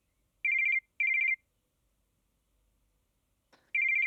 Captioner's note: phone rings